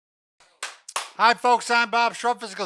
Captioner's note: hands clapping